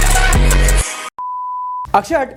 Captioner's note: beep